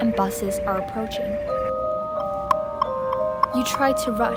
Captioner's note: traffic lights sounds